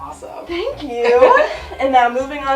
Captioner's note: chuckles